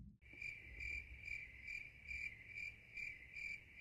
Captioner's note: crickets chirp